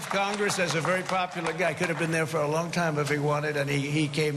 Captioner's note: cheering and applause